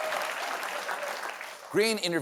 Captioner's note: applause